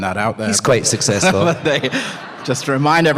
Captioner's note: laughter